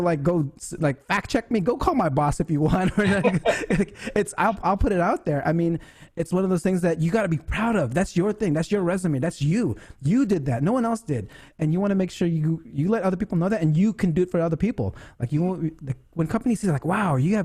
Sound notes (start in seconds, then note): 2.8 laughs